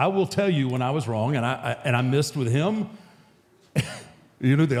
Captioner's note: chuckles